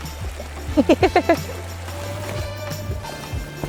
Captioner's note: laughing